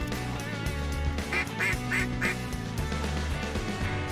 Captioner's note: duck calls